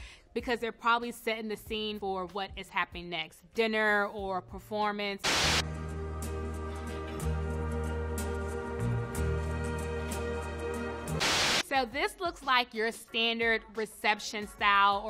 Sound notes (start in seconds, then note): 5.2 TV static hisses; 5.6 swanky ethereal music